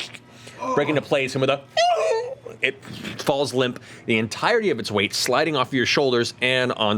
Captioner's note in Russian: стонет